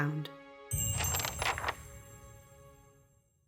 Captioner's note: quest Complete sound effect/ringtone